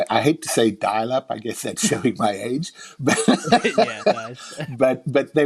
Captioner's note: laughing